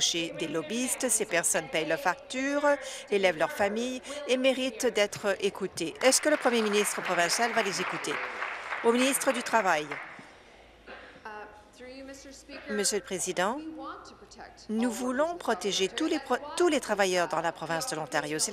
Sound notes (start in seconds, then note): 8.0 applause